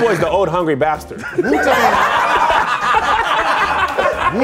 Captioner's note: laughing